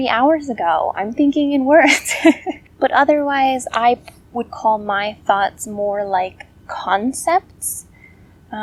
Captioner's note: laugh